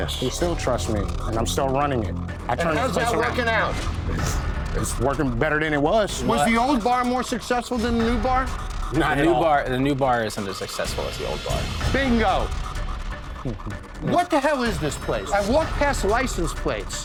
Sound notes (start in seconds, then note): 4.1 scoffs; 13.4 chuckles